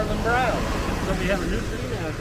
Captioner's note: loud truck drives past